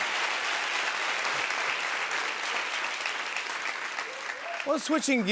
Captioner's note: applause